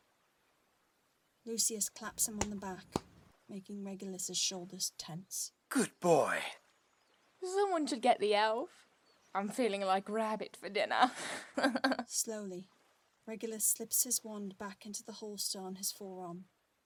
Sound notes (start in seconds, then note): 11.1 Bellatrix cackles